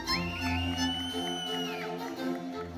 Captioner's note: audience member whistles; audience applauding; audience cheering